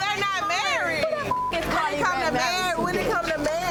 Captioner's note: beep